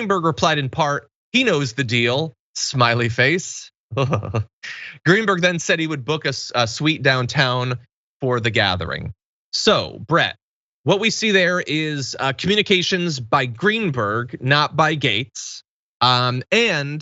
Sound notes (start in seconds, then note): 3.9 laugh